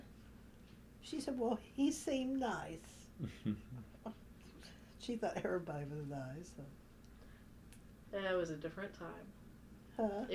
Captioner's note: laughter